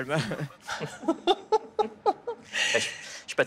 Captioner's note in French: rires